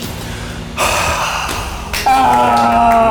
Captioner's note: deep exhale